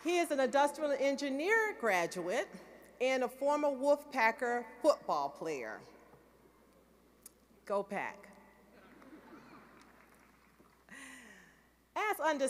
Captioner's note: applause